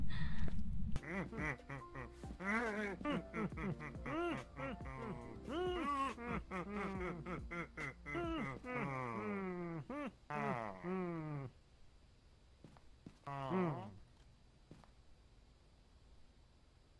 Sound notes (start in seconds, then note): 1.0 gremlin/villager noises